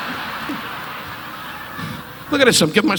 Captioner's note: audience laughing